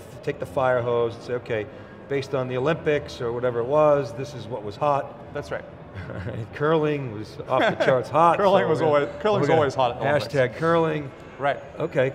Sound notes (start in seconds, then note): 7.5 laughs